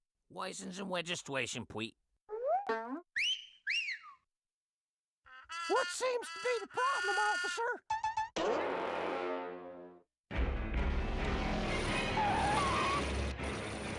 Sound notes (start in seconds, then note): 3.1 Elmer whistling; 11.7 tires screeching